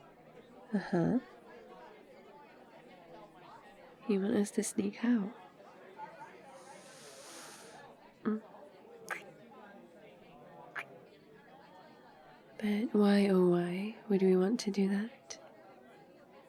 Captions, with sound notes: uhuh... you want us to sneak out? mm *kiss* *kiss* but why oh why would we want to do that?